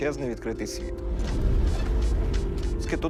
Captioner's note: meter beeping